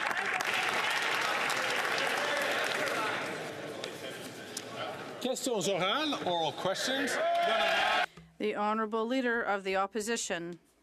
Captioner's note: some Applause